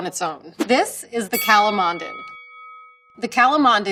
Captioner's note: bell dings